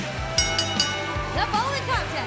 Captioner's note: bell ringing